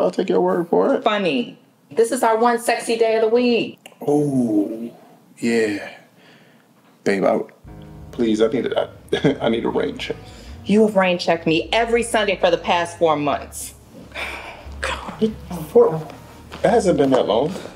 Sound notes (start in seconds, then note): 8.9 dramatic music; 14.0 sighs